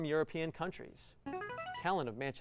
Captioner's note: buzzer